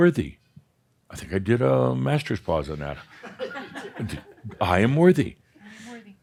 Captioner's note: a few chuckles